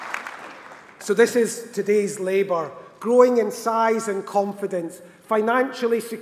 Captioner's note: applause